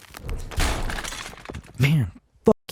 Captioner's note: wall crashes